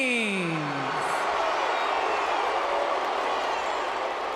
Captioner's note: mixed crowd reaction